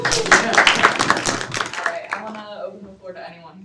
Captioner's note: students clapping